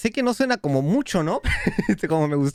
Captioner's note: giggles